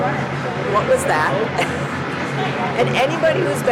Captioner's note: laughing